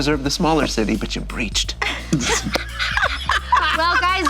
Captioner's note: laughter